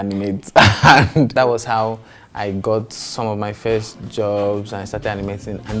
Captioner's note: laughs